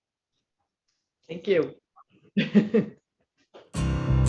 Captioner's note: laughs; bright music